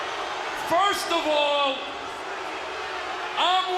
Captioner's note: crowd cheering